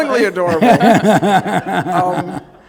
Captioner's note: laughter